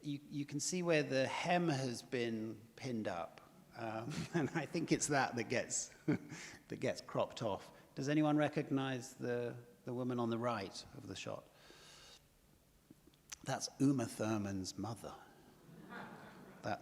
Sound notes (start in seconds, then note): 4.0 laughs; 15.6 audience laughs